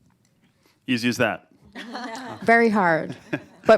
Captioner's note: laughter